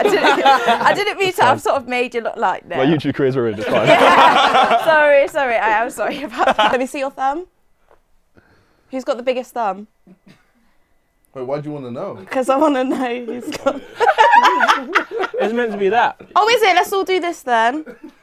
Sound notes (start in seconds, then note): 3.5 people laughing; 12.9 people laughing